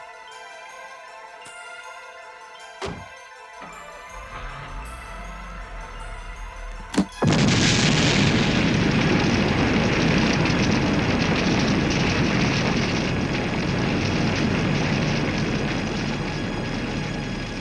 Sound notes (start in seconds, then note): 3.8 car starting; 7.2 booming explosion; 10.6 fire roaring